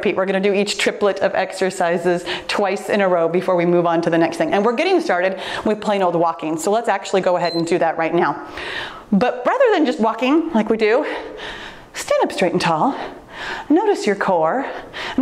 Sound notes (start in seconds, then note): 7.4 timer beeps